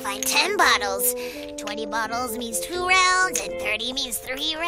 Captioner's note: Mumbling